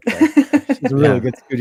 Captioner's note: laughs